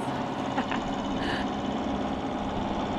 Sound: laughs

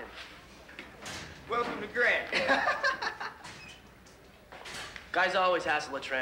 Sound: chuckles

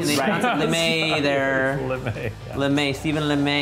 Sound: laughs

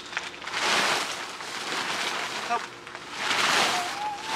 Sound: tent crinkling

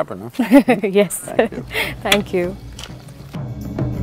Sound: laughs

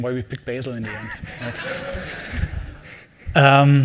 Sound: laughing

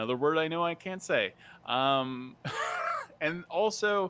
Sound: laughs

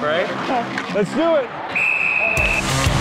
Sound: whistle blowing; intense rock music

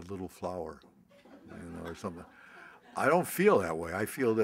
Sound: laughter

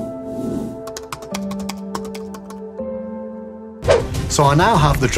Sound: logo whooshing; gentle music; keyboard clacking

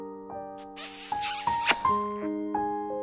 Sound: kiss

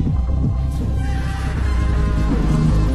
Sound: screaming

